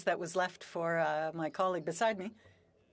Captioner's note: speaking French